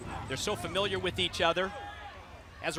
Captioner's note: crowd cheering